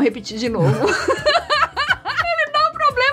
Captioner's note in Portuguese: Risos